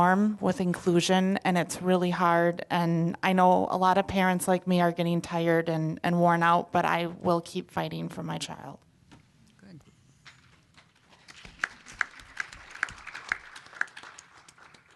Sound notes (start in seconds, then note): 10.8 applause